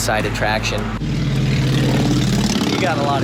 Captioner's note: engine rumbles